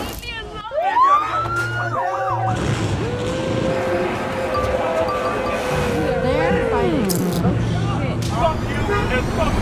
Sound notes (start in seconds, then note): 0.9 sirens whirring